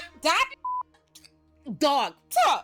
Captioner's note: beep